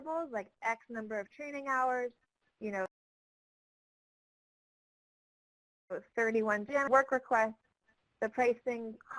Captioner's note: audio cut